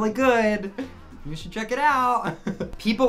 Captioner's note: laughing